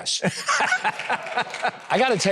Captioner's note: person laughs